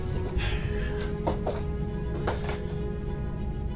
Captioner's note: Miles sighs